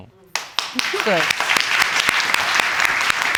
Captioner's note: audience applauding